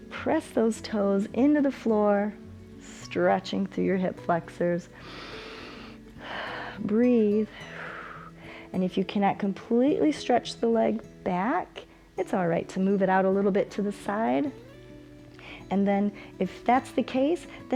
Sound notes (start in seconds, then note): 4.9 inhales; 7.7 exhales